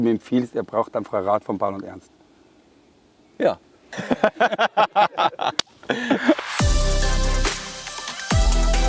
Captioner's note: laughter